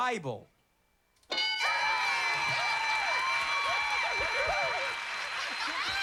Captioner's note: cheers and applause